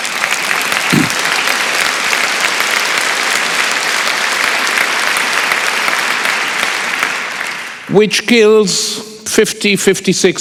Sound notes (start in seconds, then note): 0.0 applause